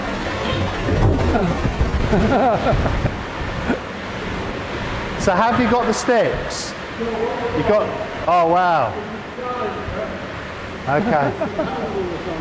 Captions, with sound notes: (lighthearted laughter) So how do you go up the steps? You've got, oh wow.